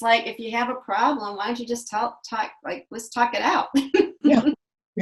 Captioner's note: laughs